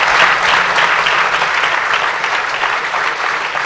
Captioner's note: applause